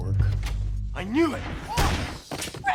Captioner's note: loud bang